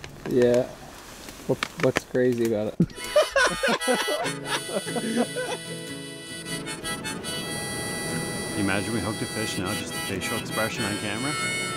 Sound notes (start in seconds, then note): 2.9 all laughing